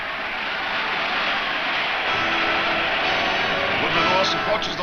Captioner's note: crowd cheers